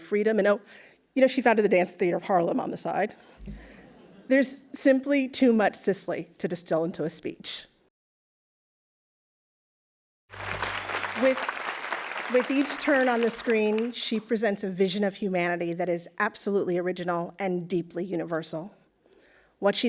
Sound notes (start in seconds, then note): 10.3 applause